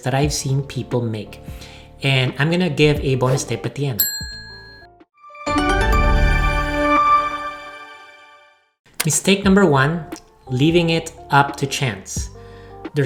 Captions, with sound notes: that I've seen people make. And I'm going to give a bonus tip at the end. (bell ringing) (lively music) Mistake number one, leaving it up to chance.